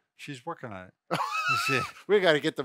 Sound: laughs

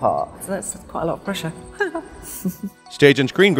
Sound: laughs

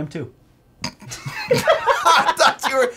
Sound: both laughing

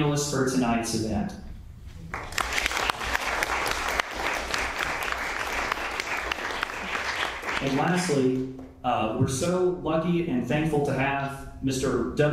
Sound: applause

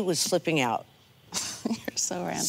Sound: chucking

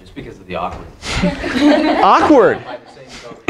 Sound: audience laughs

